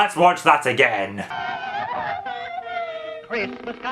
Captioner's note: orphans crying